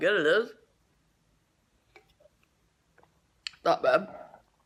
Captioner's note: gulp